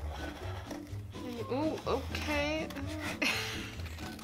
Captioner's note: laughs